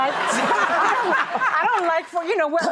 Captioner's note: laughter